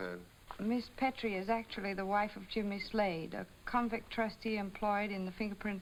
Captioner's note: none